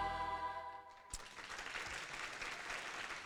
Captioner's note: applause